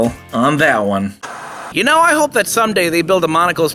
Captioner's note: TV Static